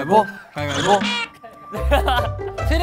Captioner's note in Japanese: ｗｗｗｗ